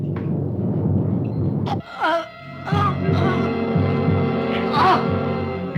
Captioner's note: gasping